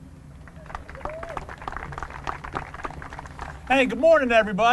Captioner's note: applause